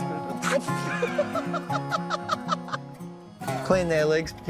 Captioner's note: both laugh